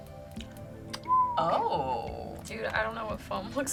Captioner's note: word twinkles; whistles